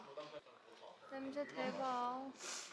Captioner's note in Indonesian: Menghembuskan napas